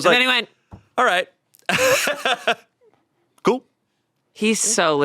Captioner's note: laughs